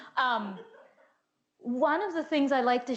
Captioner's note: woman laughs